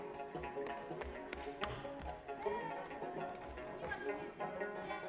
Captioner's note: footsteps thudding; child speaks foreign language